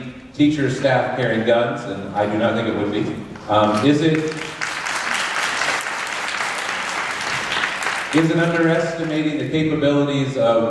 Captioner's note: applause